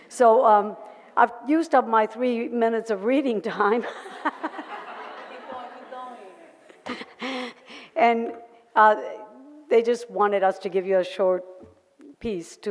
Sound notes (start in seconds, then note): 3.9 audience laughter; 3.9 laughs